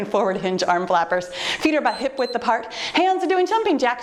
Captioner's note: timer beeps